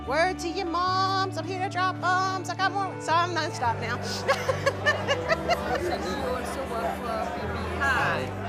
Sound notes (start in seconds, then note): 3.4 crowd chattering; 4.1 laughing